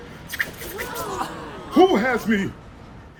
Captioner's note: public gasping